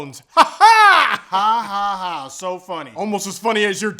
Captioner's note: weird laughing; mockingly